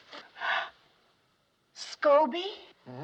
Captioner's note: gasps